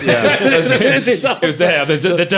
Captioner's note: all laughing